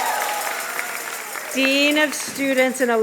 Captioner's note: applause and cheers